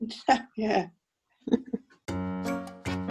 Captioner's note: laughing